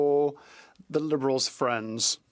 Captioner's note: speaking French